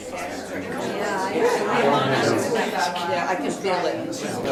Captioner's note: overlapping chatter